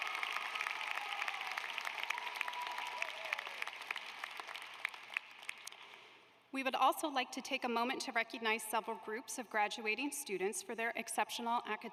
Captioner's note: applause